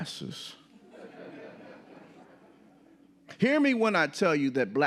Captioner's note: audience laughing